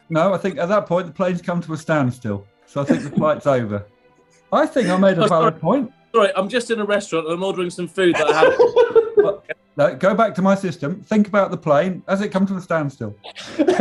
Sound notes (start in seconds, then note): 8.1 giggling